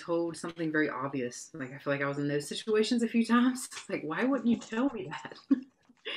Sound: laughs

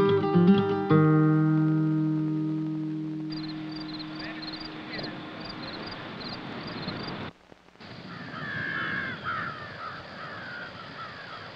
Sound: insects and birds chirping

